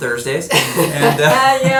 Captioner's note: laughter